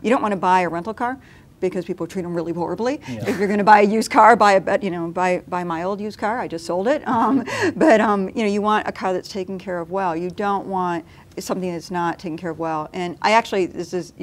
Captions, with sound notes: you don’t want to buy a rental car because people treat them really horribly. If you’re gonna buy a used car, buy my old used car, I just sold it. (laughing) But, you know, you want a car that’s taken care of well. You don’t want something that’s not taken care of well. And I actually—